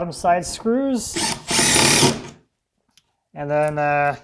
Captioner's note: drill whirring